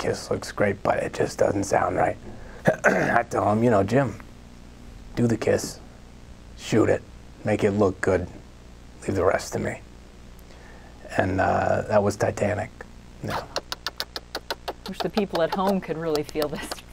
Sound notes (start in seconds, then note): 13.2 imitates lips smooching